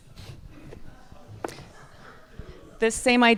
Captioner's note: audience laughs